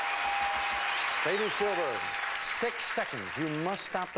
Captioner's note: audience applauding